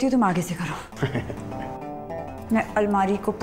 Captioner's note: Giggling